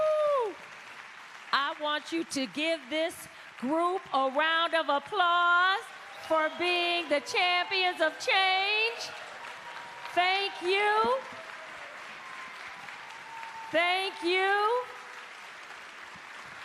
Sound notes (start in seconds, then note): 6.9 cheers and applause